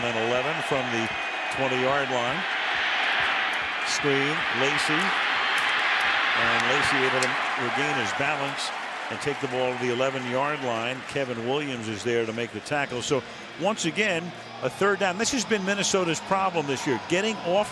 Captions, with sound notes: Second down and 11 from the 20-yard line. [crowd roars] Screen, Lacy. And Lacy able to regain his balance and take the ball to the 11-yard line. Kevin Williams is there to make the tackle. So once again, a third down. This has been Minnesota's problem this year,